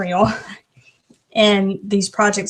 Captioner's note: lightly chuckles